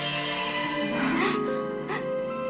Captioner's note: gasps